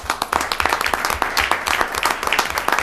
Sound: applause

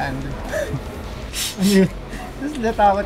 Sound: laughing

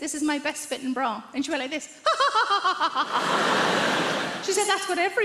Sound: posh laughter

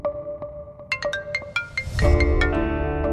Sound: phone ringing

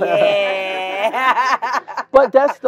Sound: laugh

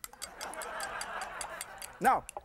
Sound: laughter

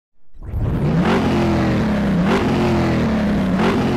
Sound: engines revving

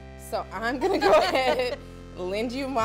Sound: light laughter

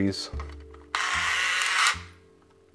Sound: camera winds on

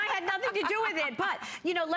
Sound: laughter

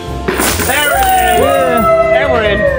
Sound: coins clinking; group cheering

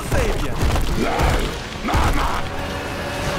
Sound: grunting

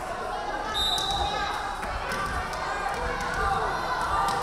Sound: referee whistling

